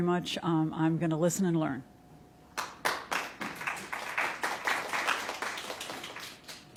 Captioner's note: applause